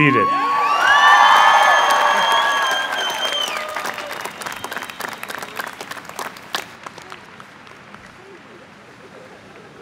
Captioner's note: cheering and applause